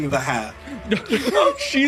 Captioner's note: laughs